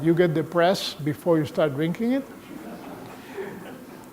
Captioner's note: laughter